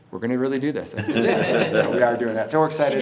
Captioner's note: everyone laughs